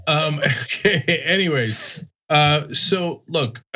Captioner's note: laugh